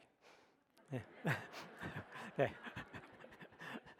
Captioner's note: audience laughs